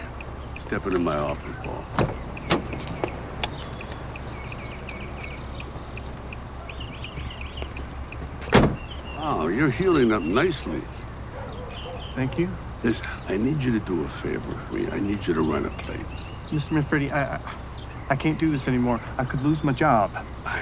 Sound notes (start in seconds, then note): 2.2 door clanking; 2.2 metal clicking; 8.4 door slamming